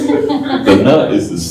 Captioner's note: laughter